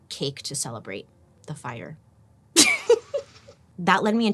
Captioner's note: laughs